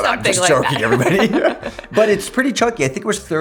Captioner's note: laughs